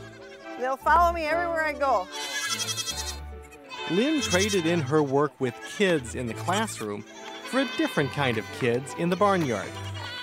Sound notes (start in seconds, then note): 2.4 voiceover